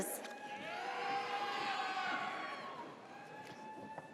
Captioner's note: audience cheers